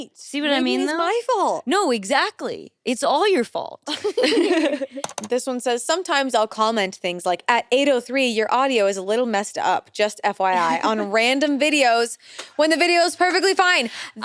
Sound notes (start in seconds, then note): 4.0 everyone laughs